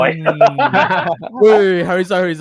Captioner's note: laughter